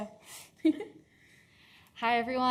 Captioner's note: chuckles